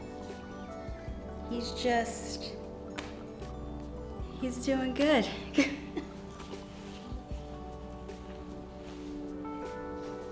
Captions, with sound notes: He's just he's doing good. (laughs) (pleasant music)